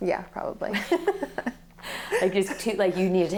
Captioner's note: laughs